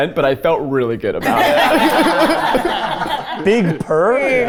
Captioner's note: all laughing